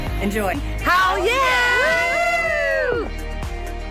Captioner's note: cheers